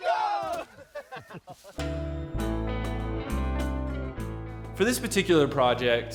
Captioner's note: cheer